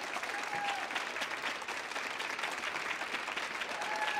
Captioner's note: audience cheers